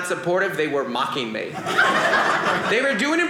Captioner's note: audience laughing